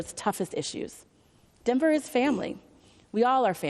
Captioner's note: none